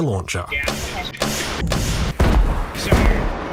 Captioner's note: BANG, BOOM etc